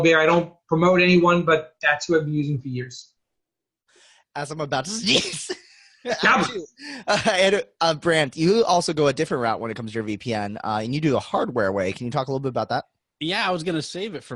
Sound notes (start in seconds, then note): 4.9 laughing